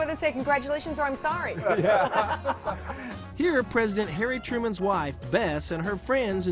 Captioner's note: laughter